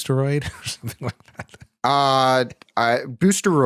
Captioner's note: laughs